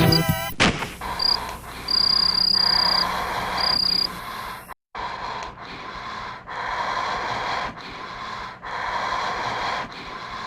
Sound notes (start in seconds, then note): 1.0 Groden breathes heavily